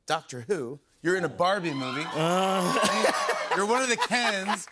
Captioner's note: laughs